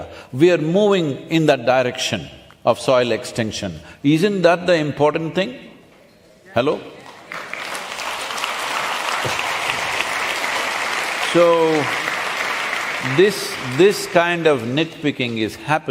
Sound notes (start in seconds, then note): 9.5 applause